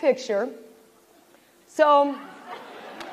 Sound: laughter

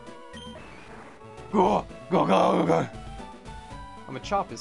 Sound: deep voice

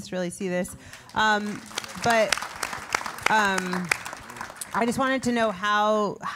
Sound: applause

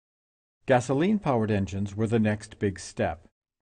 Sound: voiceover

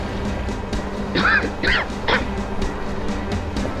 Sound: coughs

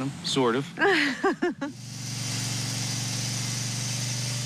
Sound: laughs

